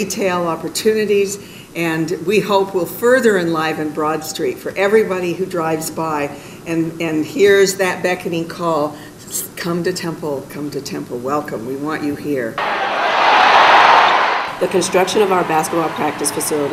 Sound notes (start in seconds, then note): 12.6 basketball game sound